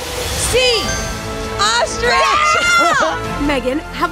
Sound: screams

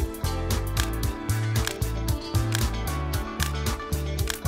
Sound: fun light music; camera snapping

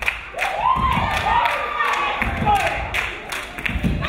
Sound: crowd cheering

